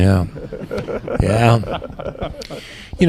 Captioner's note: laughter